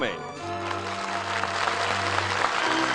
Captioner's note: applause